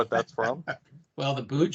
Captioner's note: chuckles